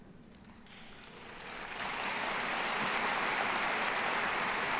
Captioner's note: audience applauding